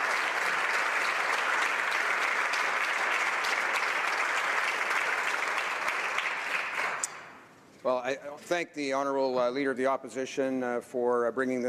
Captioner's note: some Applause